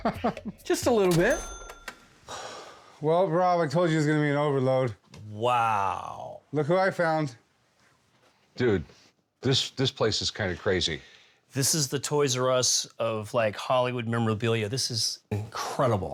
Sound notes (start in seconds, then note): 0.0 laughs; 2.3 sighs